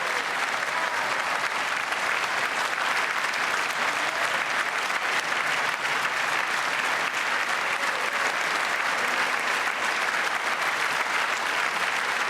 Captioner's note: applause